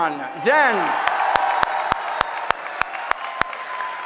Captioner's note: applause